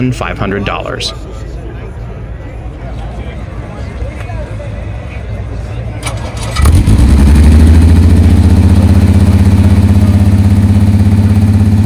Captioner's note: car Starts and Idles